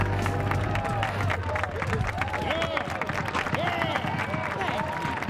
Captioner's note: cheering and applause